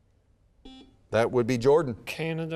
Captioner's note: buzzer beeps